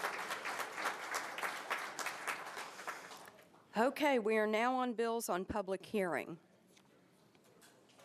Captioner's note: applause